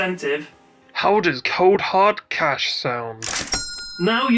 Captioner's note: cha Ching sound